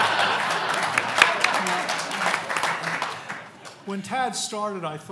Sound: laughing; audience applauding

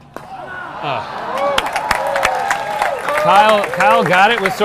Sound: audience applauding and cheering

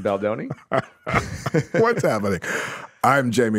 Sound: laughs

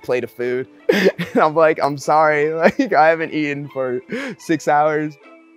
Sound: laughing

